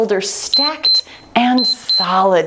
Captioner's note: timer beeps